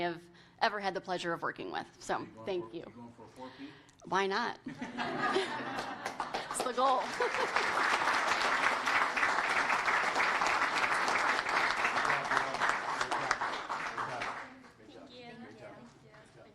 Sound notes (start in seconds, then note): 7.6 applause